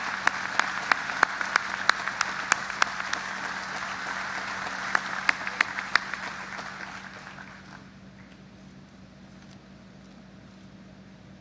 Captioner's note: applause